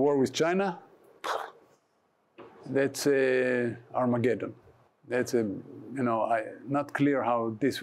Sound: makes explosion sound

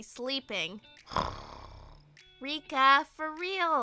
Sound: snores

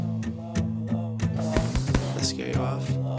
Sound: punching

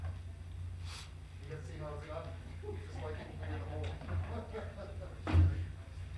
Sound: people murmuring and laughing

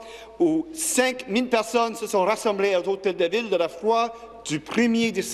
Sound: speaking French

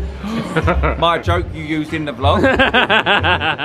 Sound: gasps; laughs

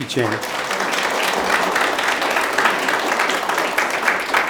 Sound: audience applause

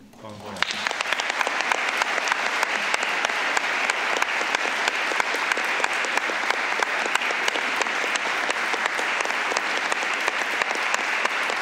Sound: applause

